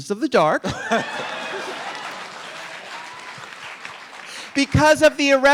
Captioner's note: audience applauding